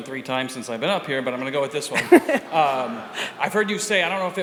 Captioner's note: audience laughter